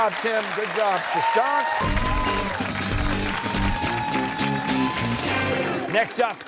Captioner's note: cheers and applause